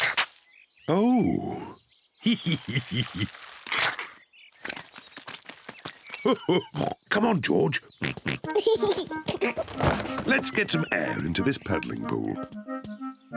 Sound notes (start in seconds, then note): 2.2 laughs; 8.0 oinks and giggles; 8.0 chuckles